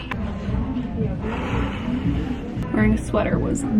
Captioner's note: exhales